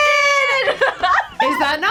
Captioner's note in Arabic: كلاهما يضحك